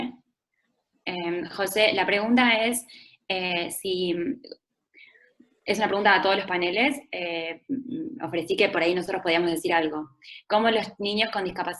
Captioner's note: Spanish